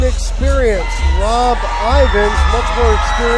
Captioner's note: applause